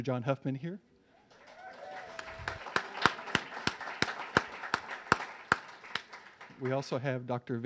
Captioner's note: audience cheers; claps